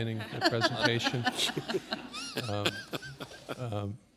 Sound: laughter

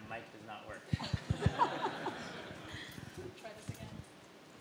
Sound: laughter

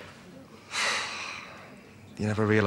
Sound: sighs

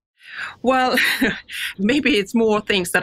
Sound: laughs

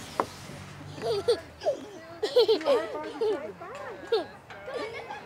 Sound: giggling

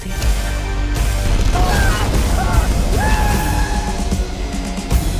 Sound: screaming

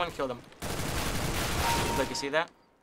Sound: firing; kill chime

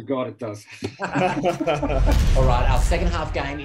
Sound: laughter

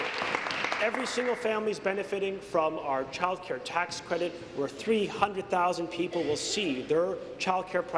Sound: applause

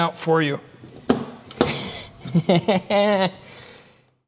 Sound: laugh

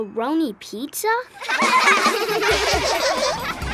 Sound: laughing

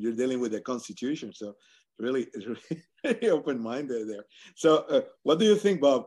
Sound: laugh

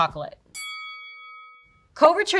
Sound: bell dings

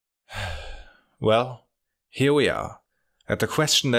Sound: sigh

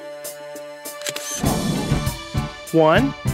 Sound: SFX: Camera Shutter

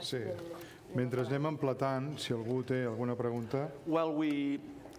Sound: speaking catalan; speaking catalan

